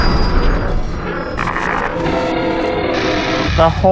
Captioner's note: distorted noises - wake up; distorted minion laughter